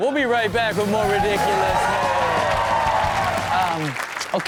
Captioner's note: audience cheers